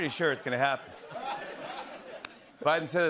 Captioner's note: laughter